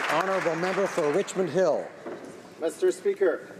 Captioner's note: some Applause